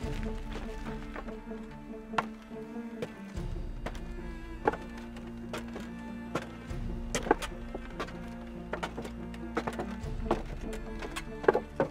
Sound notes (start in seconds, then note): 0.2 tense orchestral music continues; 3.2 footsteps clattering